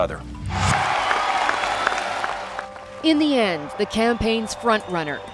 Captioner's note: applause